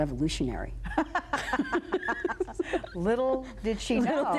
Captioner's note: both laughing